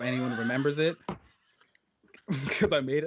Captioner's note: laughing